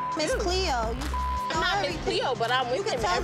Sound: beep

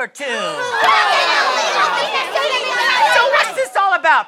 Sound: angry chattering

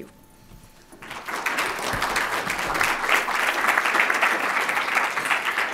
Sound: audience applauding

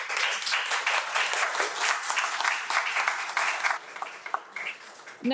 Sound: audience applauding

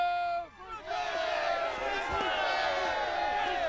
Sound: crowd yells

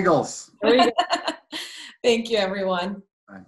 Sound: laughing

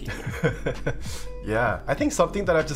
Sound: chuckling

